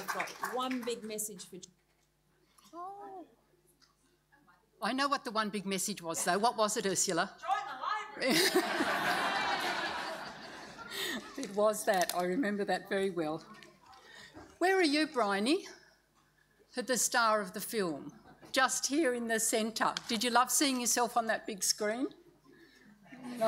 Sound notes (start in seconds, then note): 8.2 audience laughs; 11.7 laughs; 23.2 audience laughs